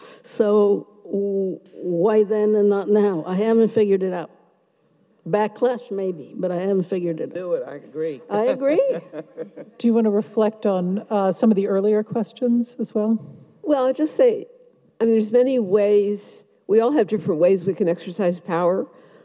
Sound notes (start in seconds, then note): 8.4 laughs